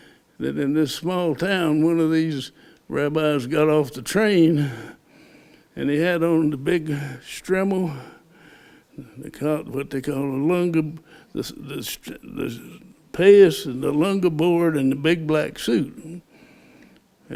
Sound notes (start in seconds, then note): 11.9 Hebrew; 14.3 Hebrew